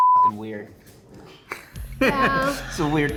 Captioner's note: chuckles